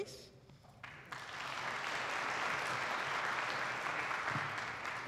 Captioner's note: attendees applauding